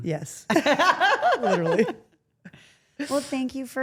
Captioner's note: Steph laughs